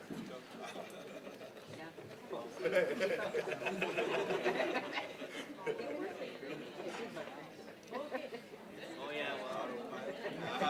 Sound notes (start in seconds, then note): 1.0 group chattering